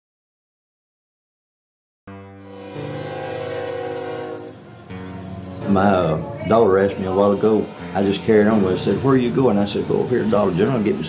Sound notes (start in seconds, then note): 2.3 light acoustic guitar music; 2.4 train horn blowing